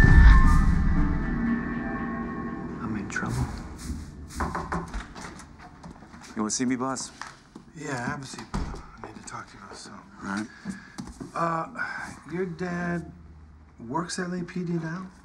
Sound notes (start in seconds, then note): 4.3 knocking